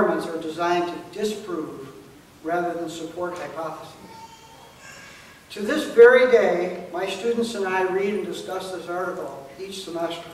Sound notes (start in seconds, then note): none